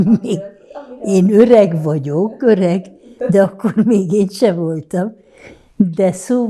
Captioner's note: laughing